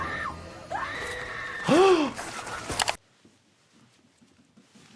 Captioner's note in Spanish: víctima gritando